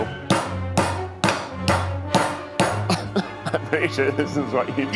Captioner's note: rolling pin thwacking; laughs